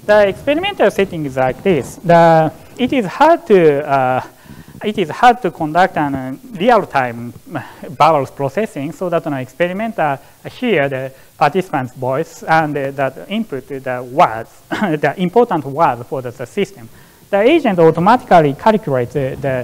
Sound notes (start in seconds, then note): 6.3 murmurs; 14.7 laughs